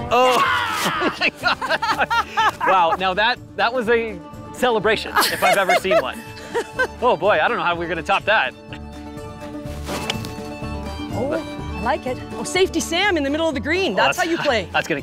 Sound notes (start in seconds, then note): 0.6 both laughing; 5.1 laughing; 8.6 lively music